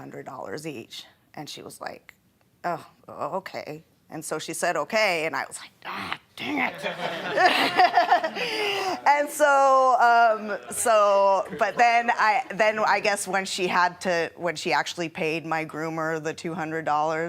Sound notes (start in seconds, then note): 6.6 laughing